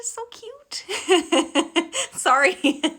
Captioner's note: laughing